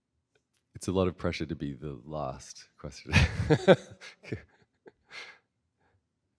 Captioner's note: chuckles